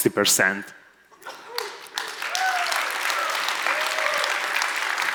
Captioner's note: audience applauds